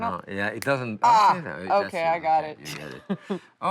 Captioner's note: laughs